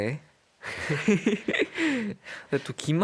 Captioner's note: tertawa